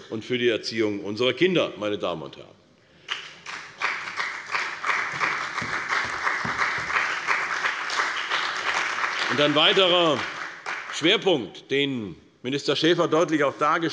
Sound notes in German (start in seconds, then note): 3.0 Beifall bei der CDU und dem BÜNDNIS 90/DIE GRÜNEN